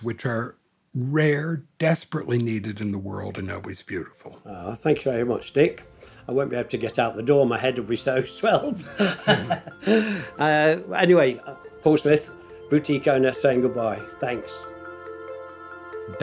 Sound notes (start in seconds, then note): 8.7 laughing; 13.9 electronic music